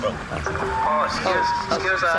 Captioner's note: honking